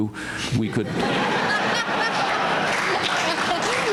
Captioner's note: laughter